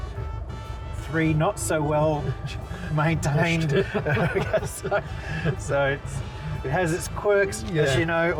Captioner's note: laughter